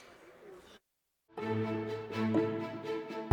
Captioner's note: audience Applauding